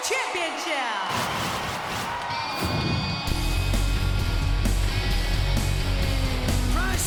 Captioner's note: graphics whooshing; upbeat music